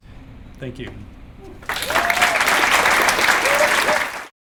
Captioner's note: clapping